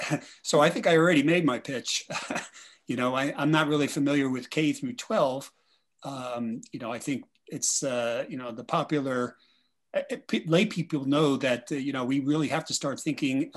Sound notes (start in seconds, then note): 2.1 laughs